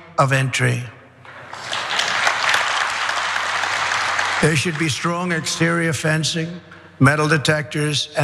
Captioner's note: applause